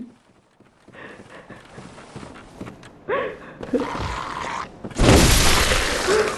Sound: crying continues

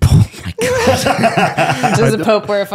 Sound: laughing

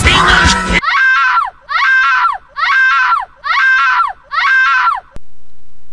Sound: GIRL SCREAM x5

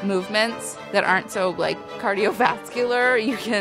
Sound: laughs

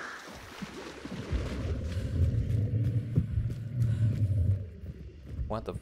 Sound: low gutteral growl

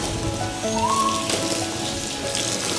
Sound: whimpers

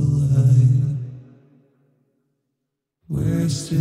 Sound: silence

